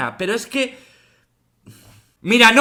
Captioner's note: breathes